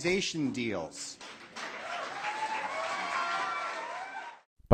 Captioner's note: clapping and Cheering